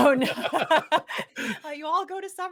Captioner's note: both laugh